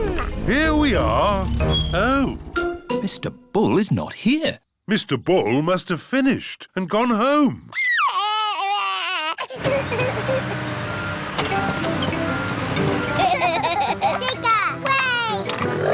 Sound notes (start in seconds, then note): 7.7 crying; 9.6 engine rumbles; 13.1 both laugh